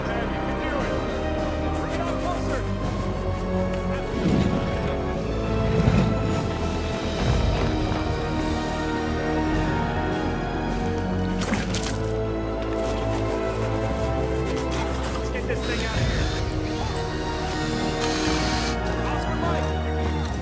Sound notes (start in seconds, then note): 11.9 Walter sputters; 15.6 drill whirring